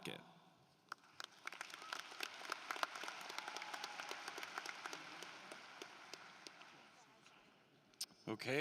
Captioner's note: applause